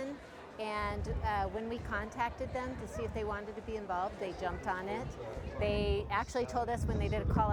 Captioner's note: cheers